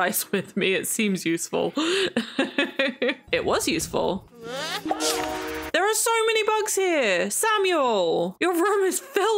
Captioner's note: laughs